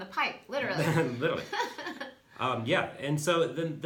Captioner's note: laughs